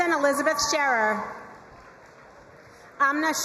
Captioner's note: crowd cheering and applauding